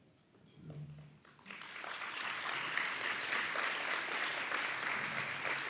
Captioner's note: audience applauds